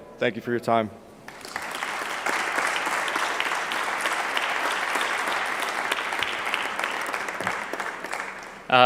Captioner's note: clapping